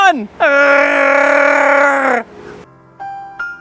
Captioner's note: wookie noises